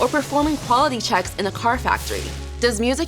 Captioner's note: sizzling; grinding